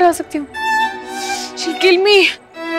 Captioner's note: Sighs